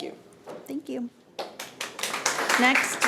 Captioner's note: audience applauding